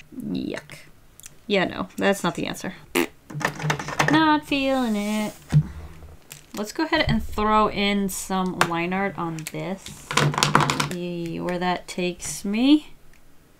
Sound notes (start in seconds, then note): 2.9 blows raspberry